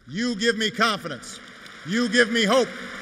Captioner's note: applause